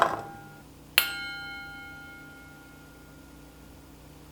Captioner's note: bowl dings